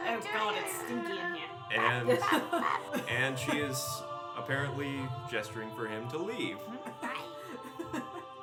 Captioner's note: fervent Ewok yelling